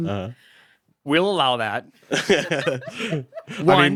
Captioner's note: chuckles